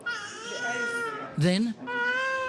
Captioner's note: baby crying